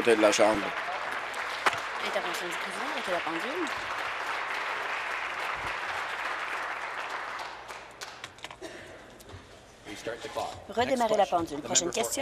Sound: applause

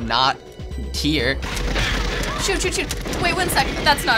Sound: gunfire

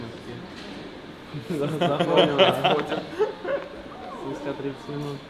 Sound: people laughing

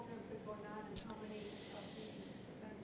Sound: voiceover

